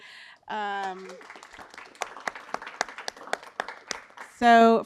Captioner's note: applause